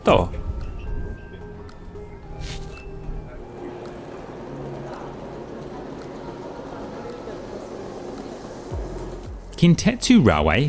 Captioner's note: train sounds